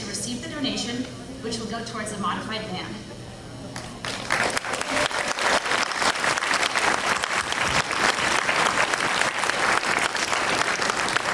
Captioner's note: clapping